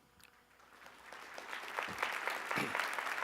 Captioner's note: applause